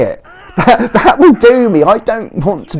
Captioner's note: laughing